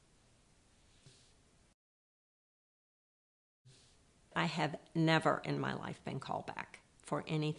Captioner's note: pause